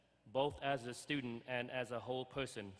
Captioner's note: none